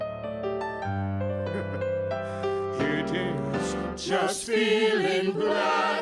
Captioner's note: chuckles